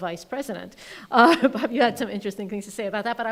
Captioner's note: laughing